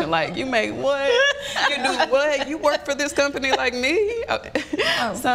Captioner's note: chuckles